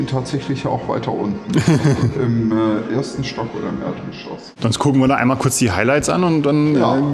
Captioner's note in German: gelächter